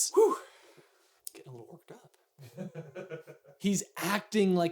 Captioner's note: laughing